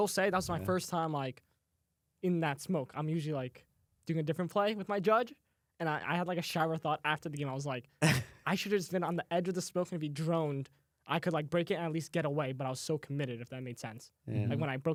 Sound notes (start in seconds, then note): 8.2 laughs